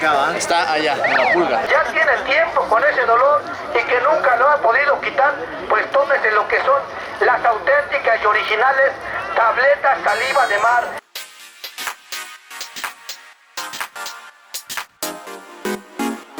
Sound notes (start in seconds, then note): 1.8 screamers speaking in Spanish